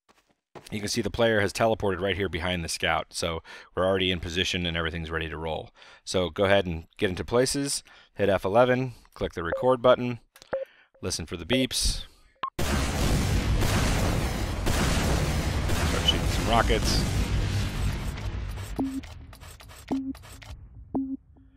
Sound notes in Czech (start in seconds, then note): 12.6 zvuk vypálených raket; 18.7 pípnutí